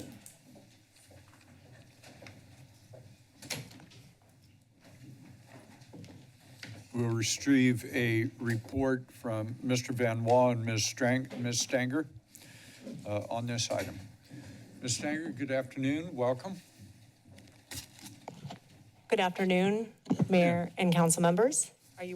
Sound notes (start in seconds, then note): 3.3 door closes